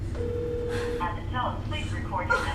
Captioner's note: automated Voice